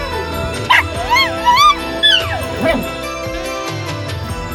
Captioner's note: hisses and then yowls; barks then howls